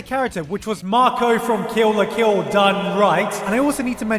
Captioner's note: deep voice with echo